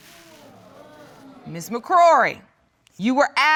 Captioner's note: audience groaning